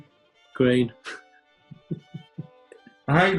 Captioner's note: giggling